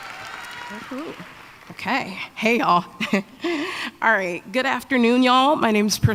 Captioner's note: applause